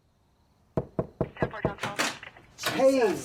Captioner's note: knock on the door